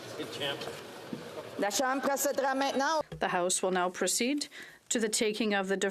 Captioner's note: off mic